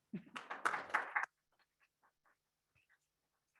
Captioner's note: people clapping